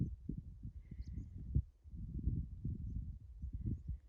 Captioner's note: wind noises